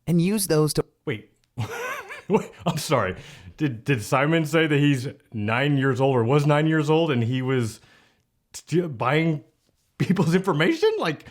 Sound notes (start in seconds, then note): 1.6 laughs